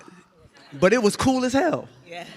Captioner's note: audience laughs